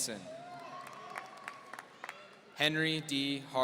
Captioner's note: applause